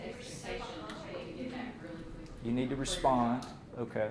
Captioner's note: woman speaking off microphone